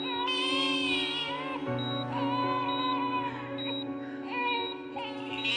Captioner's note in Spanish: Llanto del bebito